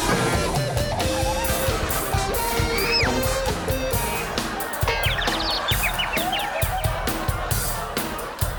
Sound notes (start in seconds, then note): 4.9 birds chirping